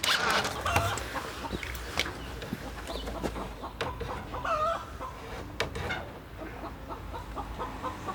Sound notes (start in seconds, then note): 0.5 chicken clucking